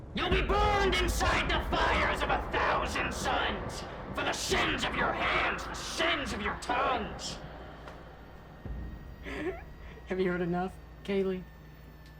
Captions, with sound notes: You'll be burned inside the fires of a thousand suns for the sins of your hands, the sins of your tongues! (chuckles) Have you heard enough, Kaylee?